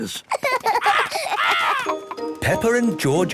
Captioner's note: laughs